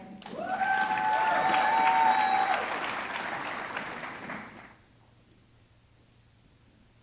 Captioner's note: audience clapping; audience cheering